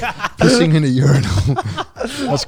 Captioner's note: laughing